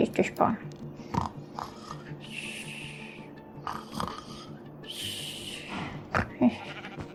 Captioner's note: snores